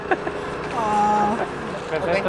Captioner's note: laughter